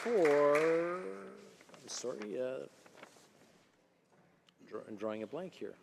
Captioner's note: applause